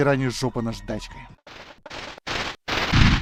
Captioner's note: trrr trrr trrr trrr